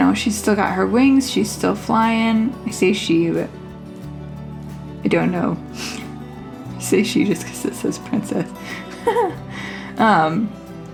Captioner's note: laugh